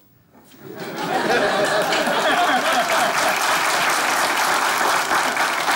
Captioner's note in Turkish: Kahkaha ve alkış sesleri